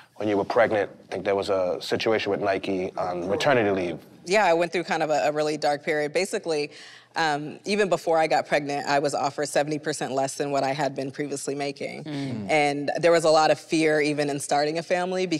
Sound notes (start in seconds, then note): none